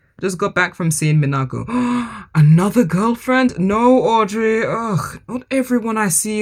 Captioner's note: gasps